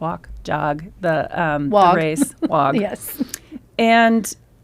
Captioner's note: laughs